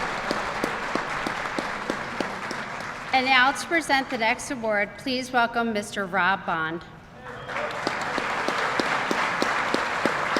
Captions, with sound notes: And now to present the next award please welcome Mr. Rob Bond. (Applause)